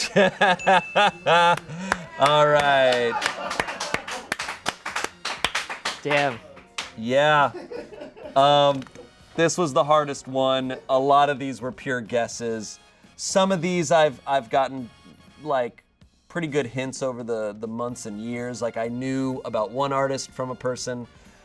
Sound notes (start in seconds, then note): 0.0 audience laughing; 0.0 laughs; 2.9 audience applauding